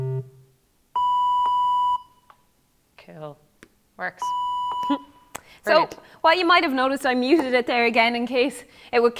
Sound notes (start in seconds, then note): 0.0 high tone plays; 0.0 low tone plays